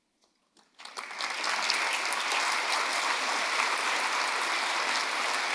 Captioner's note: audience applauding